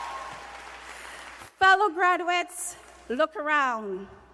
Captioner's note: cheers and applause